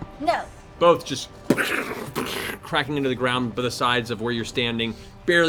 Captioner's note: fireball impacts